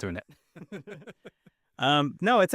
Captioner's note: both laughing